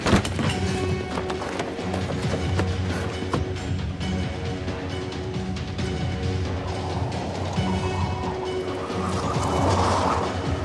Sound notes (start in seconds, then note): 4.3 tires skidding